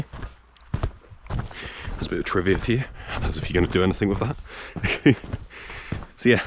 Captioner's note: chuckles